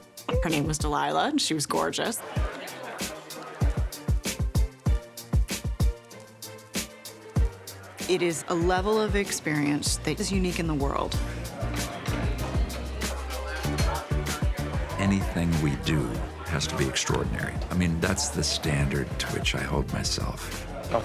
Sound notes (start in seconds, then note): 2.6 guests chattering; 2.6 upbeat music; 11.7 guests chattering; 11.7 upbeat music